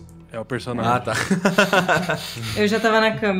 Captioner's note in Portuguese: risos